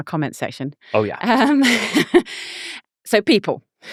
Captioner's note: laughing